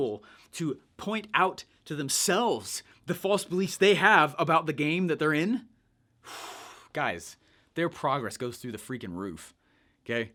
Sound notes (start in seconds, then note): 6.2 sighs